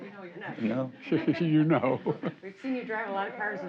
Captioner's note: laughs